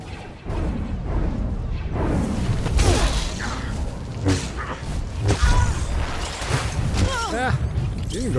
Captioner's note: explosion